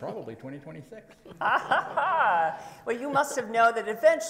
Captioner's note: laughs